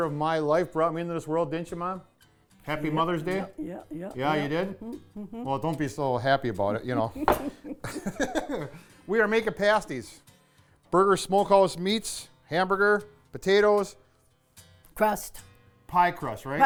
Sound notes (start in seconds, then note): 3.6 laughing